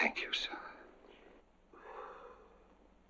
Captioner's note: exhales